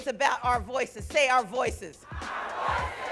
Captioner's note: crowd